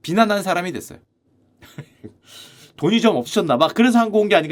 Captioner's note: chuckles